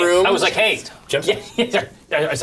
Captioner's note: laughs